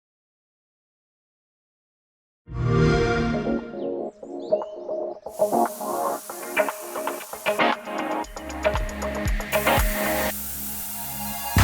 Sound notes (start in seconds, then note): 2.6 xbox sound